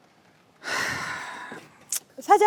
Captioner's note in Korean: 한숨소리